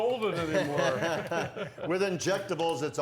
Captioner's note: laughing